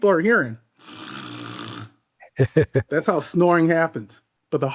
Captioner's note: mimics snoring